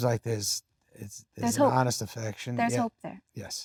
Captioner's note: laughs